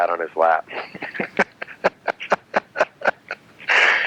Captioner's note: laughing